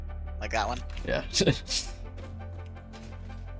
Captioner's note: chuckle